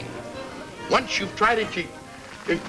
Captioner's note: whimpers